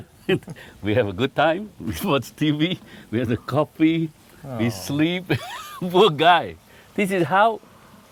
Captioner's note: laughs